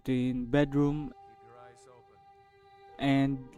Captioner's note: Ralof Interrupts